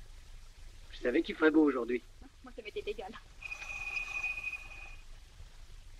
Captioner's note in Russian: далее звенит колокольчик